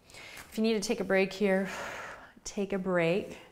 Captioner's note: exhales loudly